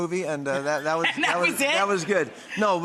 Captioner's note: laughter